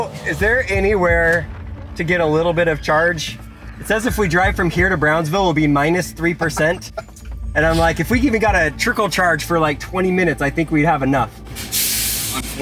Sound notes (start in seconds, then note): 6.2 laughs